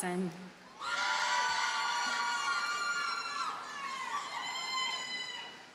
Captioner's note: audience cheers and applauds